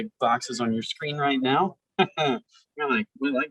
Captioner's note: laughs